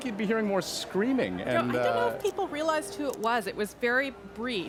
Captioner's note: laughter